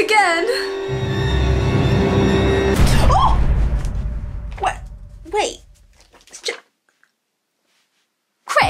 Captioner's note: screams